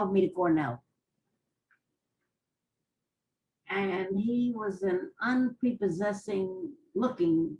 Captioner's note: pauses for 3 seconds